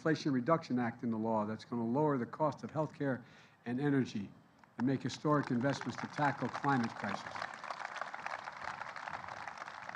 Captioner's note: applause